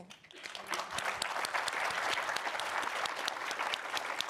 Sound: audience applauding

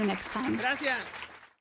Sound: audience clapping

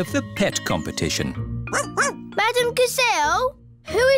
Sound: barks

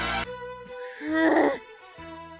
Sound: sighs

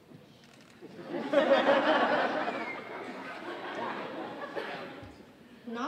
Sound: audience laughing

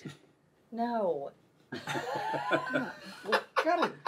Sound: all laughing

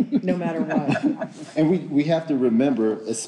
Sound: group laughing

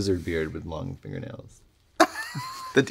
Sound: laughing

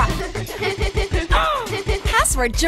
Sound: boy grunts; girls giggling

